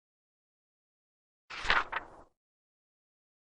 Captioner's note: page turns